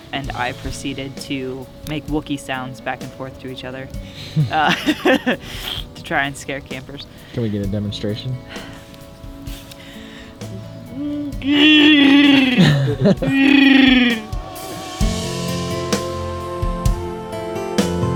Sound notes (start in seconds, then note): 4.1 laughing; 10.9 Wookie growls